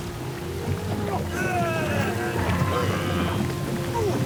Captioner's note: quejido